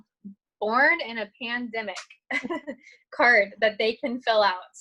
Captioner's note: chuckling